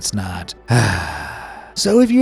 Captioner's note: sigh